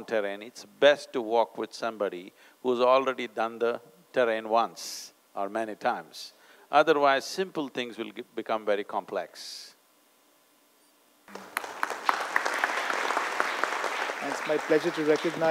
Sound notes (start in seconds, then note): 11.3 applause